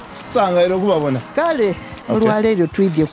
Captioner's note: speaking in Lusoga